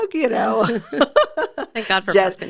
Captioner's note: both laughing